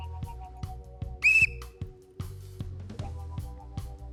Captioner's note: blows whistle